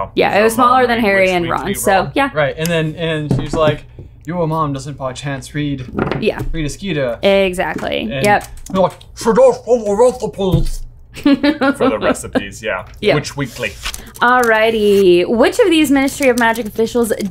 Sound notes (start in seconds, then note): 8.8 in garbled voice; 11.1 laughing